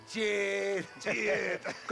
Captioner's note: laughing